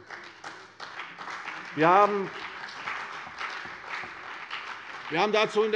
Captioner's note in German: Beifall CDU und BÜNDNIS 90/DIE GRÜNEN